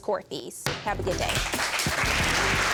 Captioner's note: bangs gavel; audience applauds